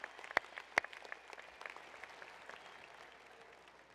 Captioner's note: applause